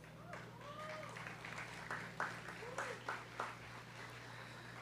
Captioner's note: students clapping